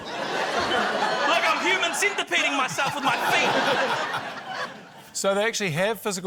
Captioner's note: laughter